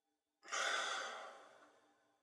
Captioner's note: exhales